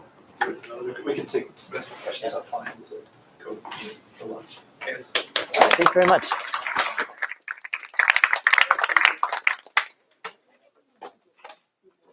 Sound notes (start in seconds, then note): 7.0 applause